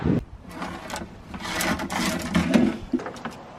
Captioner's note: rattling